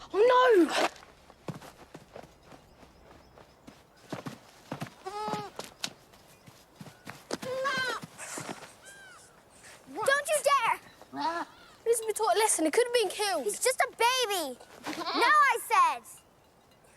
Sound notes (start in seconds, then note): 5.0 goat bleating